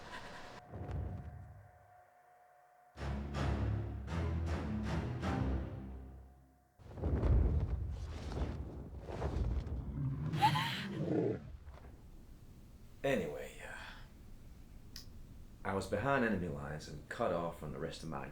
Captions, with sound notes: (suspenseful music) (dragon growls) (Connie sobs) - Anyway, I was behind enemy lines